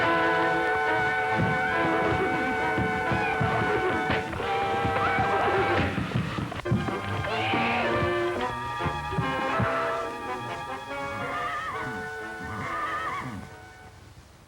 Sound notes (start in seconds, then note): 1.6 neighing